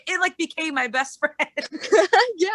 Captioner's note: laughter